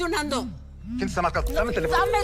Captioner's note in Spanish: Vibra el celular